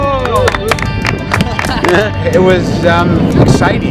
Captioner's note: people clapping